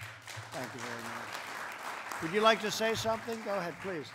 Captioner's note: applause